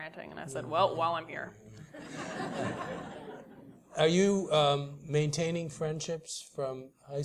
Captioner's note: laugh